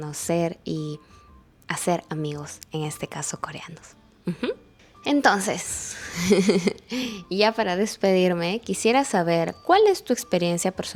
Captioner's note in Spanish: risas